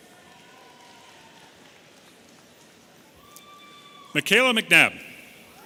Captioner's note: audience cheering